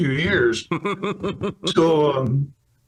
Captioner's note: laughs